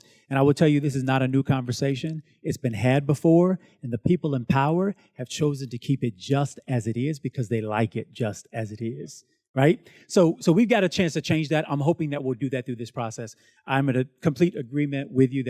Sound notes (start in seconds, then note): none